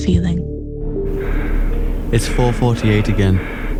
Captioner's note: there is heavy breathing, as if someone is scared